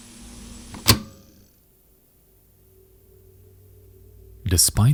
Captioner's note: machine clicks